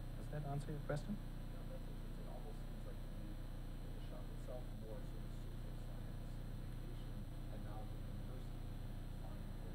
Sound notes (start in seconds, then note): 6.0 speaking softly